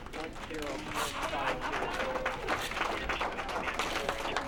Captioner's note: all clapping